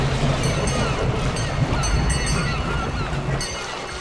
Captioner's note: water splashing; boat bell ringing; seagulls calling